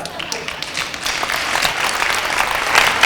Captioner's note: applause